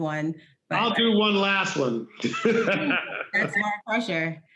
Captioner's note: laughing